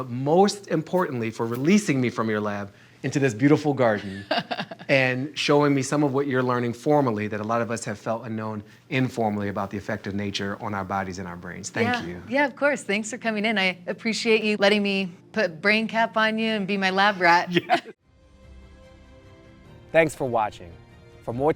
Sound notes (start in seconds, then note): 4.0 laughs; 17.4 laugh